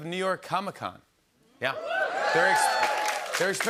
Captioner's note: cheers